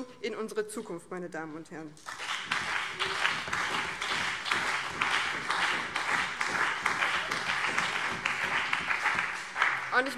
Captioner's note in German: Beifall BÜNDNIS 90/DIE GRÜNEN und CDU